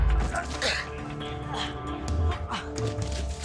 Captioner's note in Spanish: Quejidos